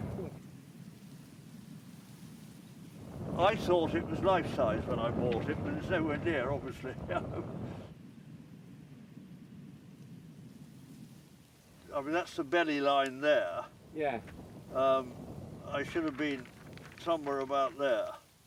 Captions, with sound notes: I thought it was life-sized when I bought it, but it's nowhere near, obviously. (chuckles) (grass rustling) That's the belly line there. - Yeah. - It should have been somewhere about there.